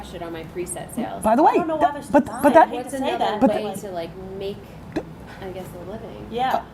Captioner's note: voices chattering